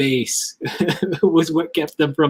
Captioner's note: laughs